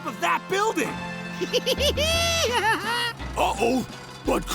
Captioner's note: laughing